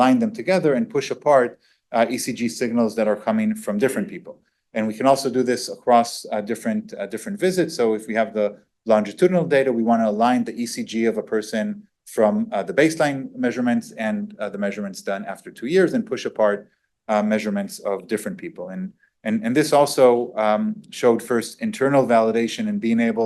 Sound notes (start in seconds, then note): none